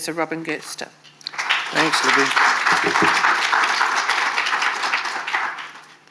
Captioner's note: audience applauding